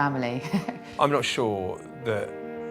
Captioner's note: laughs